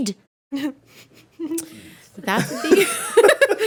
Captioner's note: laughing